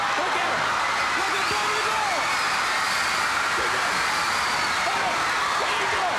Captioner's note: audience roaring; group chattering